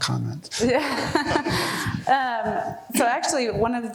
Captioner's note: laughing